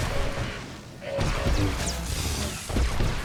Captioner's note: gunshots